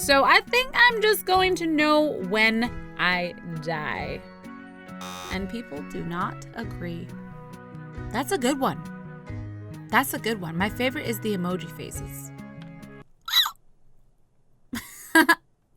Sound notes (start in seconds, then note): 13.2 squeak!; 15.0 laugh